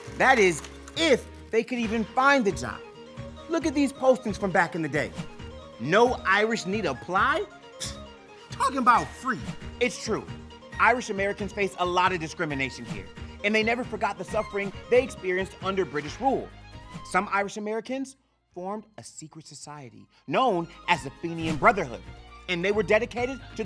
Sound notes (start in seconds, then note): 7.5 smacks lips